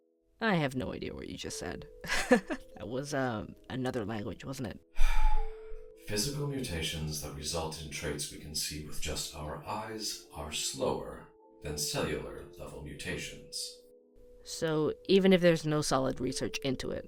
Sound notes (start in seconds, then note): 2.0 laughs; 5.0 sighs